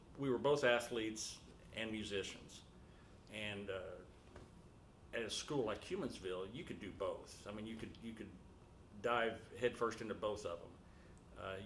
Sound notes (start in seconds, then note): none